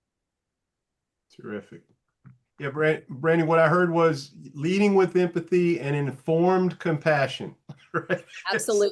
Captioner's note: light laugh